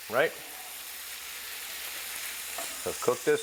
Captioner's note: pan sizzling